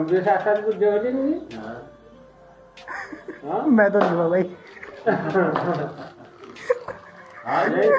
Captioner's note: giggles; everyone laughs